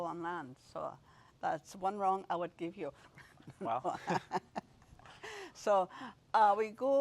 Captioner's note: laughs